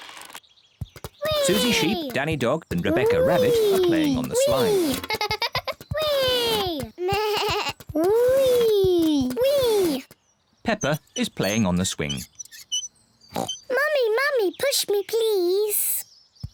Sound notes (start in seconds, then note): 6.6 bleats; 13.3 oinks